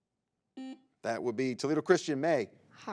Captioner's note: buzzer beeps